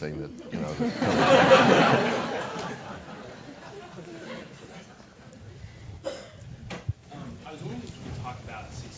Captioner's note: laugh